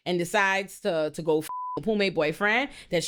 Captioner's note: beep